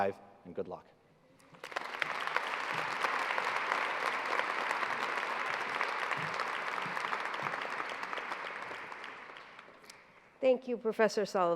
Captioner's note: applause